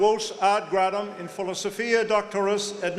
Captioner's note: speaking latin